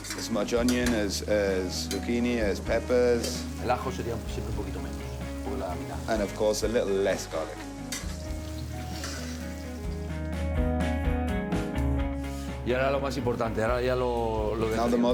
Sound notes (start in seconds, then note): 3.3 speaking Spanish; 12.6 speaking Spanish